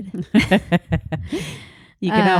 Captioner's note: both laughing